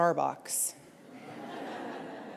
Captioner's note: laughter